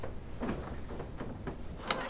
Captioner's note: door shuts